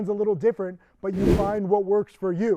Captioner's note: wind whooshing